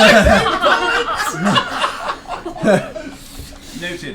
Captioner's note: all laugh; high-pitched voice